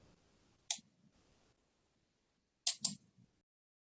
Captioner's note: mouse clicks